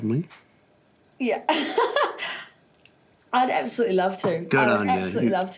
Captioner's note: laughs